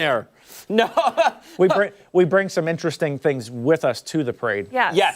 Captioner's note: laughter